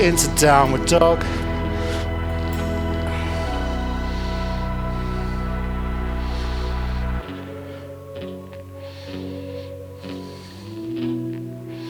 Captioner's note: breathing